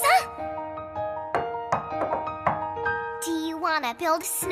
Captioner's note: knocking